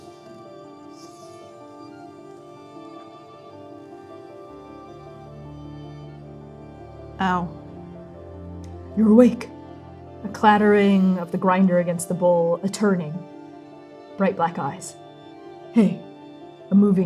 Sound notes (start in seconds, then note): 1.1 miniatures sliding